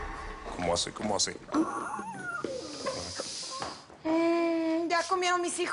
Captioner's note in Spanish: Relincho